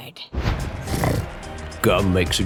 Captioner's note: snorts